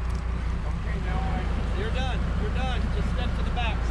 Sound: boat engine running

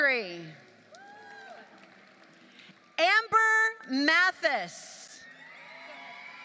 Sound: applause; applause

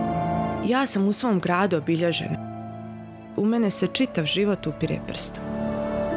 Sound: woman speaking in foreign language

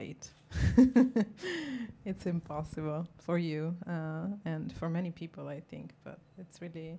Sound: laughs

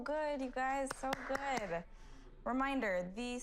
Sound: applauding

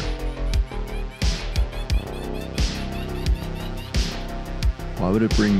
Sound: increasing Beeping

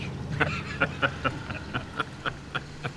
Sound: all chuckling

